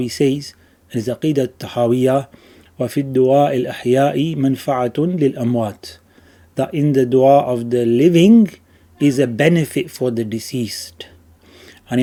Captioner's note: Arabic